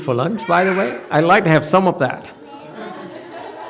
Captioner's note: audience chuckles